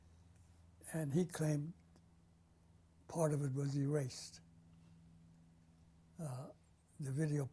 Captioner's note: pauses for 3 seconds